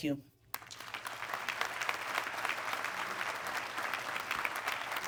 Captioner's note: audience clapping